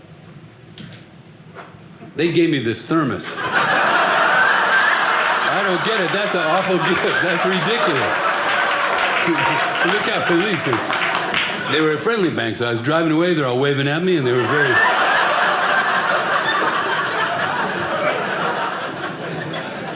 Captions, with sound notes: They gave me this thermos. (audience laughing) I don't get it. That's an awful gift. That's ridiculous. (audience laughing) Look out. It leaks. They were a friendly bank. I was driving away. They're all waving at me, and they were very-- (audience laughing)